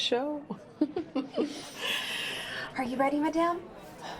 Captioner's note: Eleanor and Joan laugh